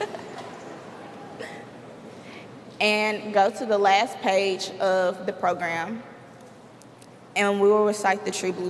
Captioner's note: laughter